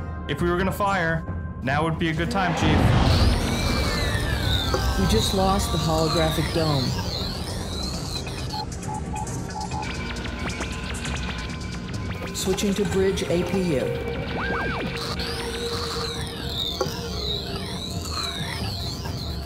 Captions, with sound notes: if we were gonna fire... now would be a good time, Chief. [ weapons impact - static on screens ] We just lost the Holographic Dome... [ alert warnings ] Switching to bridge APU. [ control systems restoring ]